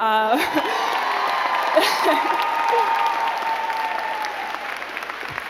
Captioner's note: crowd clapping and cheering